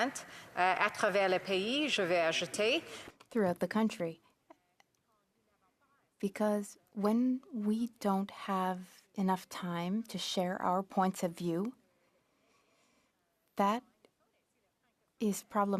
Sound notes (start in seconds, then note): 3.9 speaking FRENCH